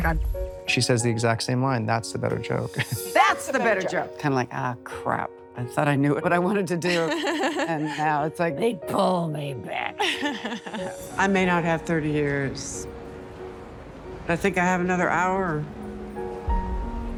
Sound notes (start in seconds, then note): 6.8 laughs; 9.9 hannah laughs